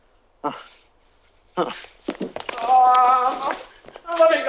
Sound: Skeeter gasping

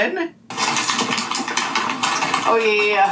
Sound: paper rustling

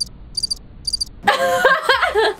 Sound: crickets chirping; laughing

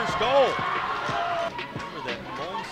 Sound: cheering

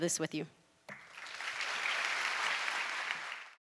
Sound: applause

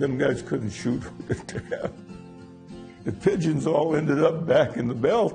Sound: laughs

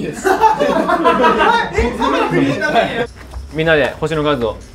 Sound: laughters

